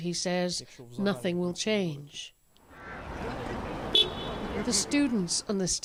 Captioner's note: speaking alternate language